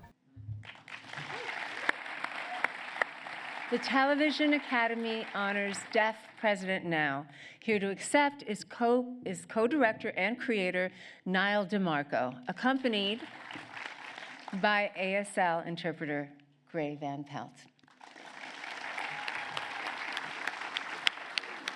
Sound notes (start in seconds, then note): 0.6 applause; 17.8 applause